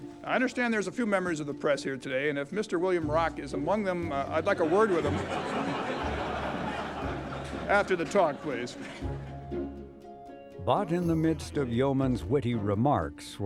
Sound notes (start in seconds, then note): 4.4 audience laughing